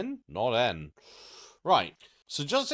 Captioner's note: blank Audio